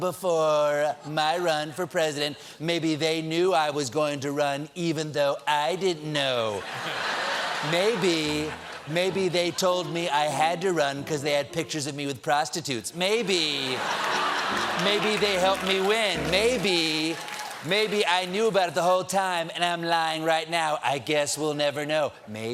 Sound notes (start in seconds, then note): 6.6 laughter; 13.4 laughter